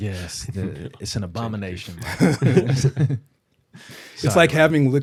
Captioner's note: laughter